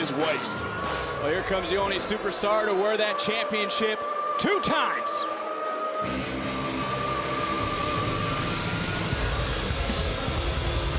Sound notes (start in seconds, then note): 6.0 booing